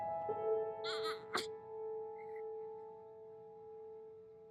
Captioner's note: baby cooing